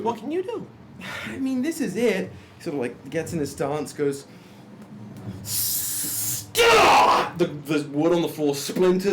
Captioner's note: shouts